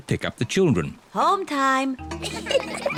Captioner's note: children giggling